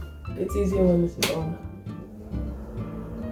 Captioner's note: extractor fan